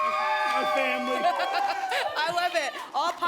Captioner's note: cheering; laughter